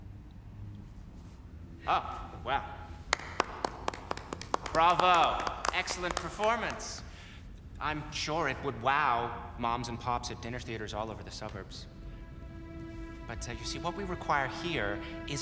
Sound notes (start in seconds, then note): 2.9 claps